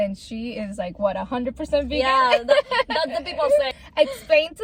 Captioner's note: laughs